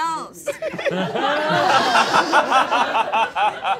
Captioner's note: all laughing